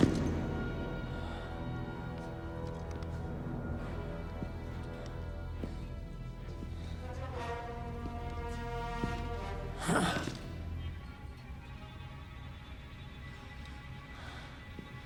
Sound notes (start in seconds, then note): 0.1 Castellano exhales sharply; 4.4 suspenseful music; 10.4 Castellano exhales sharply